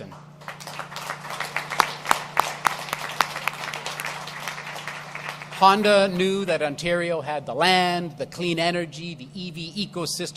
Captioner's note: applause